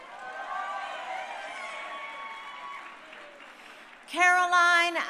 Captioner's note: crowd cheering